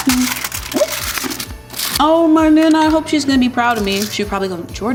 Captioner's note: humming